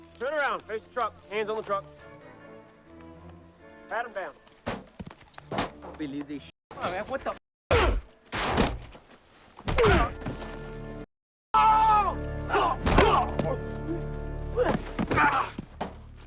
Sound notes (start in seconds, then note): 7.7 blow thuds; 8.0 driver grunts; 11.5 drug runners yelling; 12.5 blows thudding